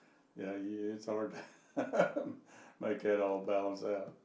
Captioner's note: laughing